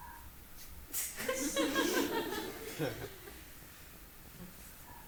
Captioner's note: audience laughing